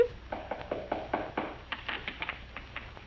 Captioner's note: knocking